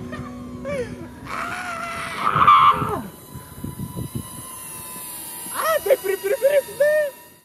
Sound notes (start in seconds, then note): 0.6 crazy laughter; 3.3 drone whizzing